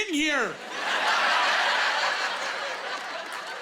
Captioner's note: laughing